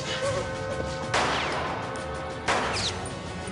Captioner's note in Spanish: Disparos